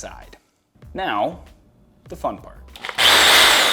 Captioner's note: drill whirring